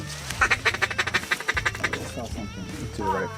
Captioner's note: duck call chattering